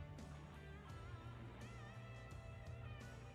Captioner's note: none